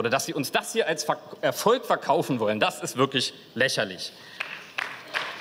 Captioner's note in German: Beifall